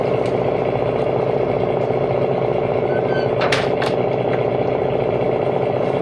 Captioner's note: metal clanking